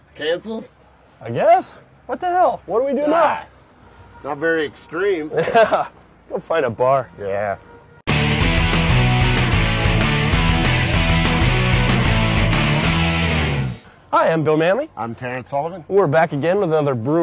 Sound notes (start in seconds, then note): 5.2 laughing; 8.0 loud rock music